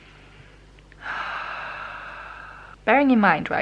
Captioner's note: long sigh of suffering